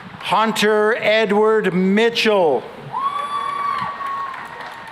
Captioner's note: cheering and applause